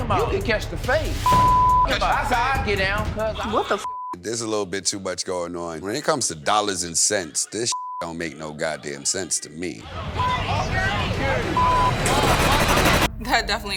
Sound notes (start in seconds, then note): 1.2 beep; 3.8 beep; 9.8 indistinct chatters; 10.2 beep; 11.0 dramatic music